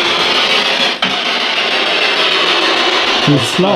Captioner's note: bang